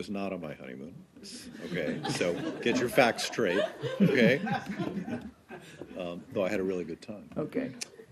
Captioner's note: laughter